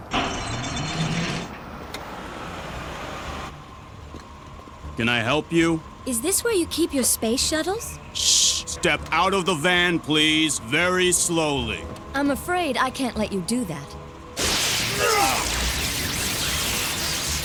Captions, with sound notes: Can I help you? Is this where you keep your space shuttles? - Shh. Step out of the van, please. Very slowly. I'm afraid I can't let you do that. (electrical zapping) (men yelling)